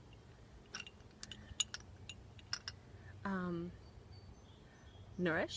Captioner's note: glass clinking